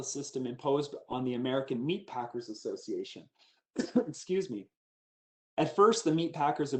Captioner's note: coughs